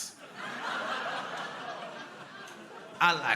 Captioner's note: crowd laughing